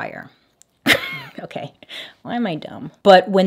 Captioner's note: chuckles